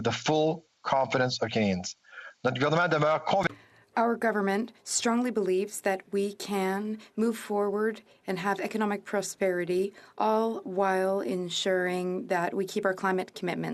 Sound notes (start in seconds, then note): 5.5 speaking FRENCH